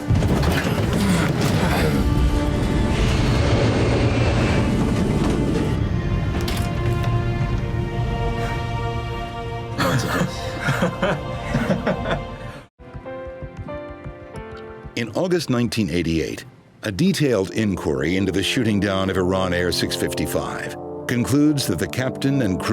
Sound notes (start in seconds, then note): 0.3 airplane engine whirring; 10.2 flight crew laughing